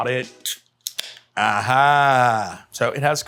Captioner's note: can ring top popping